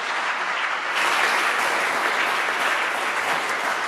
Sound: applause

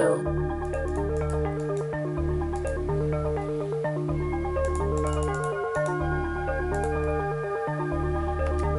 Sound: mouse clicking

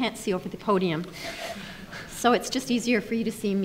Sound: snickers

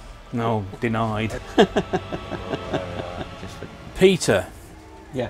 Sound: laughter

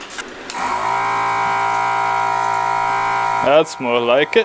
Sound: pump noise

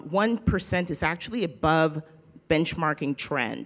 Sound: none

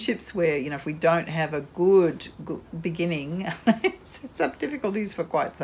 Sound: laughs

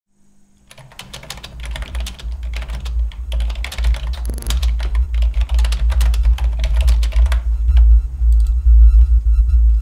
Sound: typing on computer

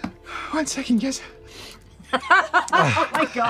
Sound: pants; laughter

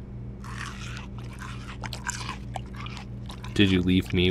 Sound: munching

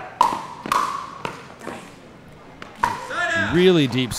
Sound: ball bouncing

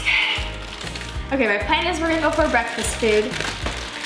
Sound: normal voice

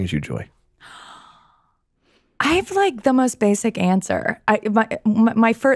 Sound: gasps

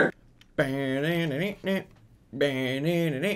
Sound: humming

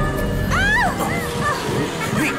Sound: groans

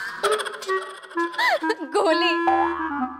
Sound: laughs

